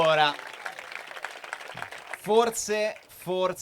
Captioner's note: Applausi